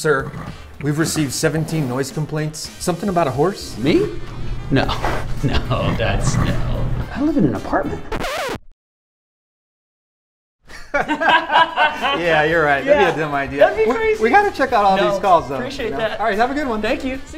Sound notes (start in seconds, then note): 8.0 record scratch; 10.6 laughter